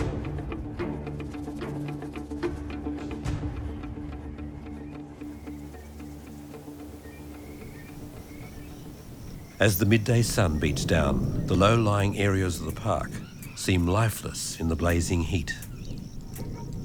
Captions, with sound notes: (birds tweeting) As the midday sun beats down, the low lying areas of the park seem lifeless in the blazing heat.